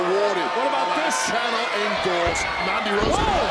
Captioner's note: crowd boos